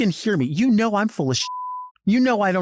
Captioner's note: beep